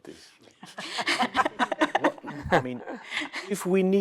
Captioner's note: laughter